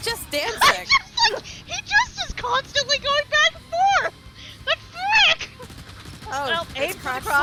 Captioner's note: laughs